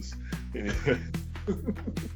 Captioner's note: laughs